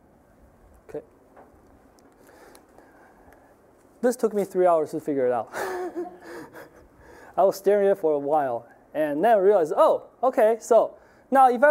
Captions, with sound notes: OKAY. THIS TOOK ME THREE HOURS TO FIGURE IT OUT. (laughing) I WAS STARING AT IT FOR A WHILE. AND THEN, I REALIZED, "OH! "OKAY, SO..."